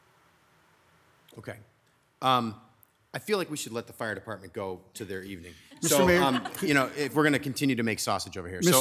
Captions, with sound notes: Okay. I feel like we should let the fire department go to their evening. (members laughs) - Mr. Mayor. - If we're gonna continue to make sausage over here so.